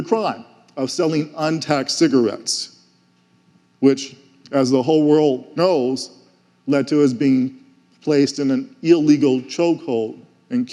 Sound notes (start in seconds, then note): none